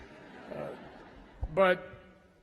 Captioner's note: laughter